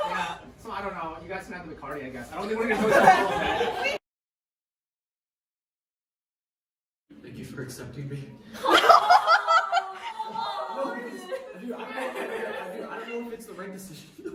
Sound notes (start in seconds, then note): 8.6 laughter and awws